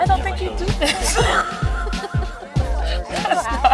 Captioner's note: laughter